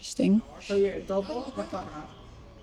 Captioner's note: people talking in a different language in the background